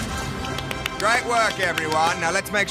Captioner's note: applauds